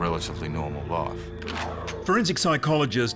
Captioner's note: gun cocks